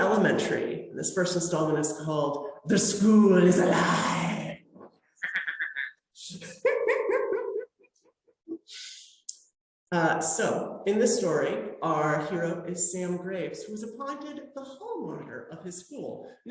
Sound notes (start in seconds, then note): 5.2 evil cackle; 8.0 normal laughter